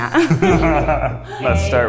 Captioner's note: laughs